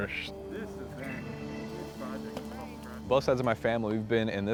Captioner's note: volunteers chatter